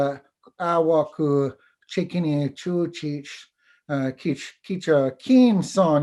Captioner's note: foreign Language